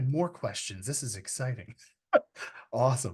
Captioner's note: laughs